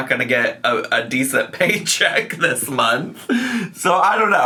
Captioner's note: laughing